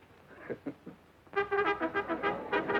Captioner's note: Red chuckling